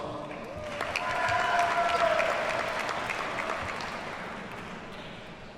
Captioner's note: audience cheers and applauds